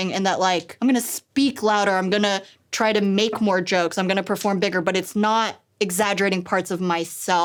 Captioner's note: none